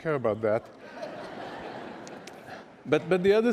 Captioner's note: laughter